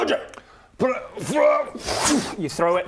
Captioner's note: fwrrr fwooof